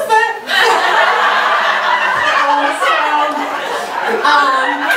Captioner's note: audience laughter